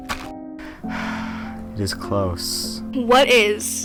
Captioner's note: sighs